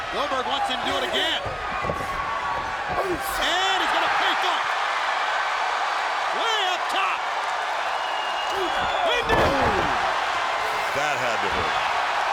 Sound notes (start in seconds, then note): 4.8 crowd cheering loudly; 12.1 crowd cheering